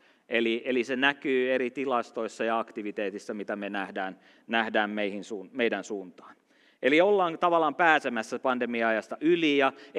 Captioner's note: none